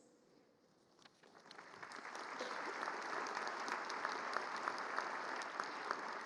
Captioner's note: applause